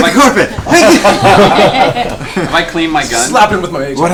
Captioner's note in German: Gelächter